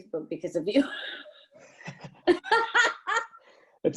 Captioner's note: laughs